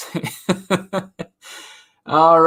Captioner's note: laughs